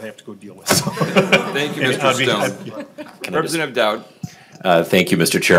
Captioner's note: laughing